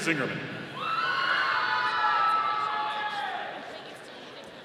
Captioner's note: audience cheering